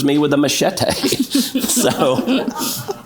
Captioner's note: audience laughs